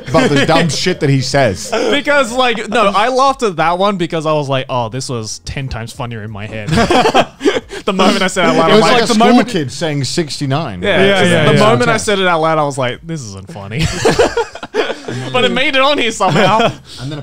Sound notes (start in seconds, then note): 6.6 laughs; 13.8 laughs